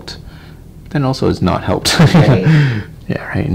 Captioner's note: laughs